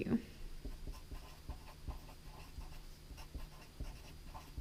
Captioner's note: pen scratching